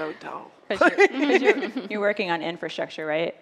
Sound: laughter

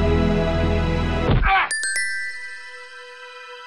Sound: bonk! grunt!

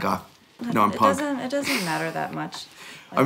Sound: laughter

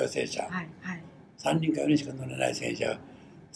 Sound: foreign language

